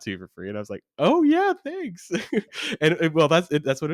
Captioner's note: laughs